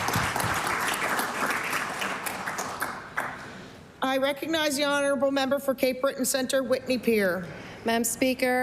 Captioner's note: applause